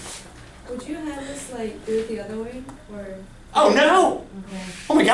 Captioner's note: voiceover